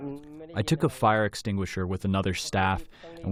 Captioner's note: through translator